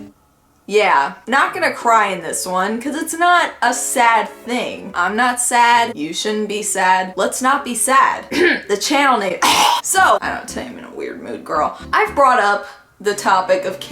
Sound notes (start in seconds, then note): 9.4 cough